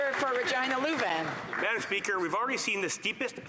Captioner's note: some Applause